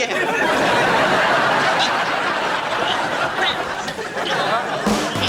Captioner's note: audience laughing